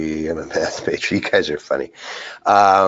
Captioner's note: laughs